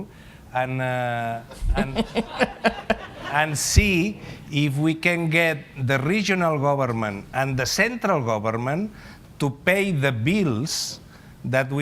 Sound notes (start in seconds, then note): 1.5 laughter